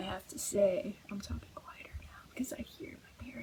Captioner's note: whispering